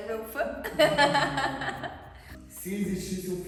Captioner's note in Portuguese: risos